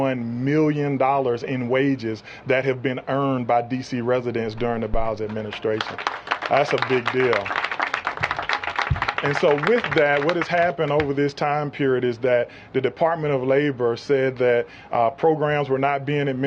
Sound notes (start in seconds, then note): 5.2 applause